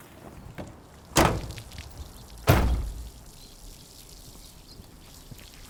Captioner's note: water spattering